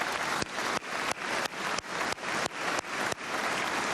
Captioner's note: cheers and applause